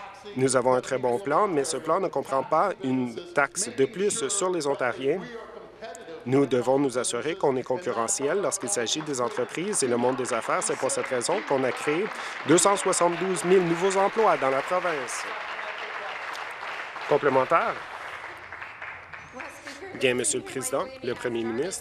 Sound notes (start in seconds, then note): 17.0 applause